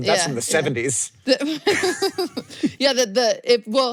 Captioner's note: chuckles